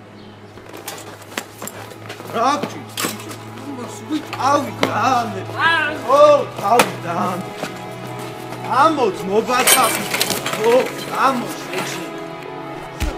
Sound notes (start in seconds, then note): 0.7 hits; 1.4 punches